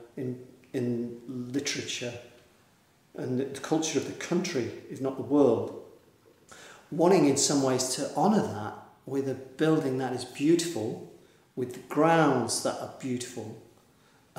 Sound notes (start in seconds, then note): none